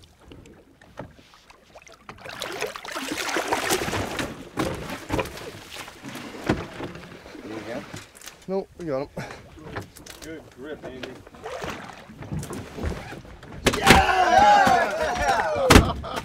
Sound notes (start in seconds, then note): 5.8 fish thrashing against boat; 15.6 thunk